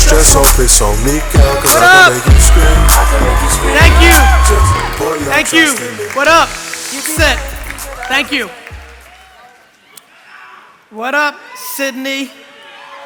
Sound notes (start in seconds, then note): 3.3 cheering